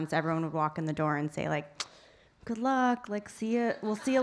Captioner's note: tsks